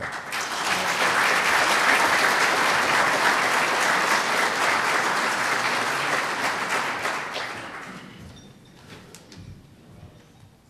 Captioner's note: applause